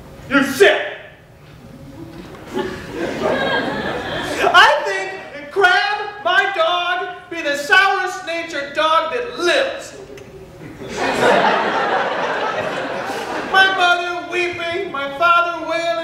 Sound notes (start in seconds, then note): 2.4 audience laughter; 10.5 audience laughter